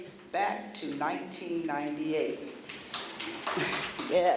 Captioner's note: applause